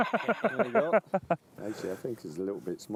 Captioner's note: laughter